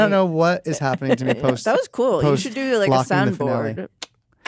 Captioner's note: clicking tongue